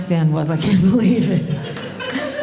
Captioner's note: audience laughing